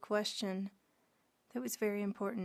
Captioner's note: speaking French